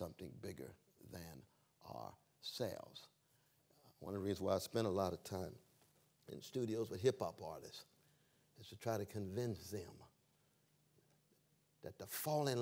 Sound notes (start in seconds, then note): none